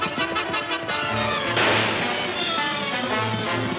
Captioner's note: guns firing